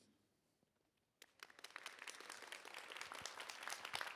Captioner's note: applause